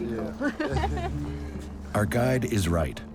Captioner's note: chuckling